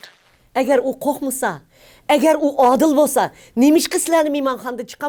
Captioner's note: speaks in foreign language